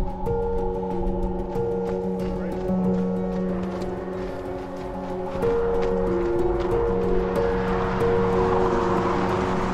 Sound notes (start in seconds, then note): 3.8 engines roaring